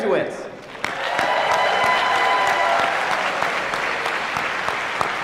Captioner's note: applause